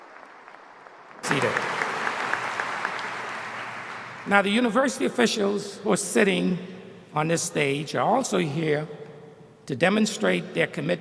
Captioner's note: applause